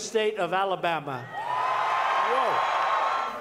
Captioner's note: cheering and applause